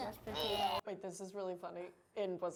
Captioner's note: groans